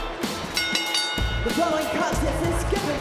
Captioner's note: bell rings